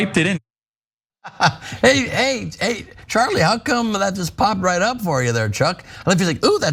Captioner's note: laugh